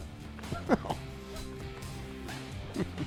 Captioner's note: laughs